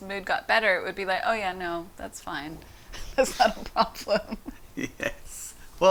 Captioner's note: laughs; chuckles